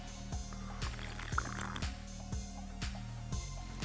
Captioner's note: slurping